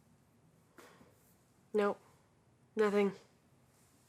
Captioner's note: sighs